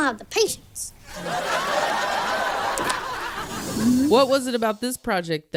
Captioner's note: audience laughs